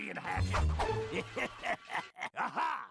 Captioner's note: laughing maliciously